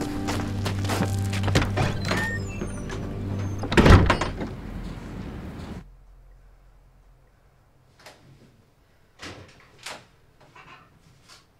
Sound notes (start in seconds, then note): 9.2 door opens